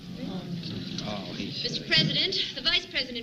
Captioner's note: crowd murmuring